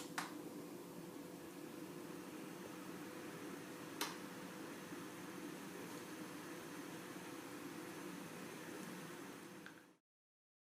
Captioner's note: fan blowing